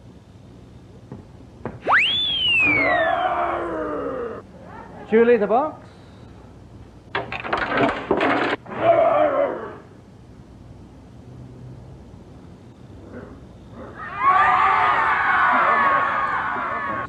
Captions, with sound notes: [whistle] [growl] Julie, the box. [crash sounds] [audience screams]